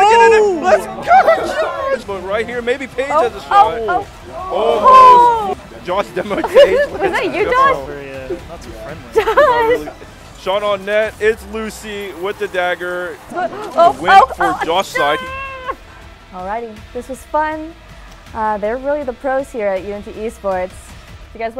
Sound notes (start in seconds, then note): 0.0 person yelling; 8.0 laughing; 14.9 groaning